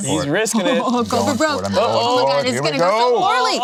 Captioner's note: laughs